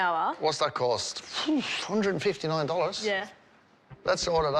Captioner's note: sighs